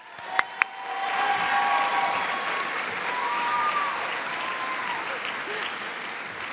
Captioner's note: cheers and applause